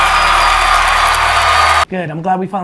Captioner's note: applause and cheering